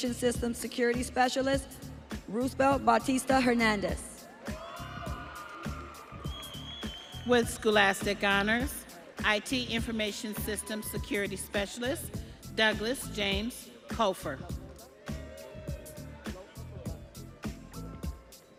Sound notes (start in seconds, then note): 6.1 audience cheering